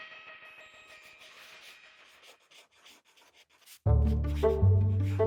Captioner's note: pencil scribbling; playful music